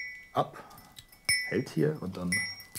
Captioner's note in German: Es klingelt